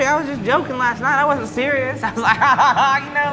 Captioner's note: laughs